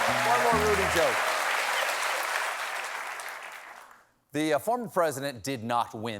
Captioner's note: cheers and applause